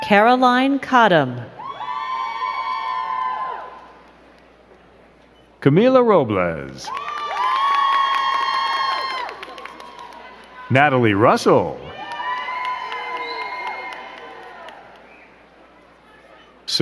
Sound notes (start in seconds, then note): 1.5 crowd cheering; 6.6 crowd cheering and clapping